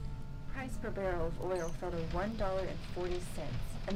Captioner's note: radio Announcer